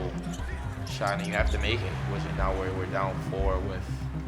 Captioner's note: shoes squeaking